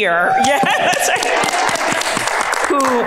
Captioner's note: audience cheering